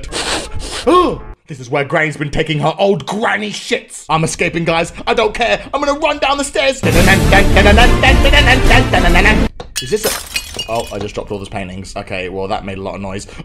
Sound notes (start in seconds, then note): 0.0 sniffs; 9.8 smashes